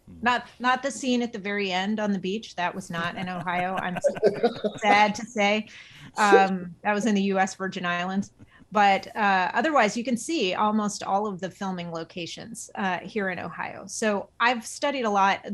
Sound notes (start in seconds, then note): 2.8 laughing